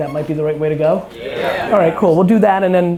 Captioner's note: crowd